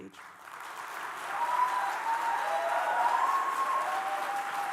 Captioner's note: applause and cheers